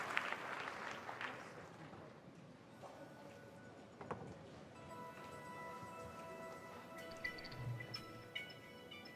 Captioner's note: applause